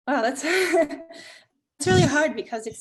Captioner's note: chuckles